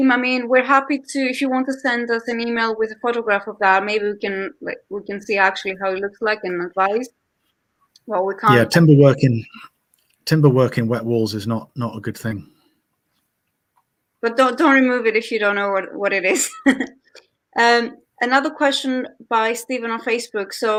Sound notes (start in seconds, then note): 16.2 laughs